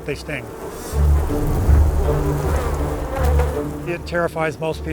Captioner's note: bees buzzing; intense music